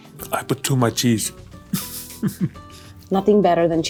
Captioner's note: chuckles